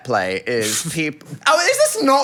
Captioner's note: Phil laughing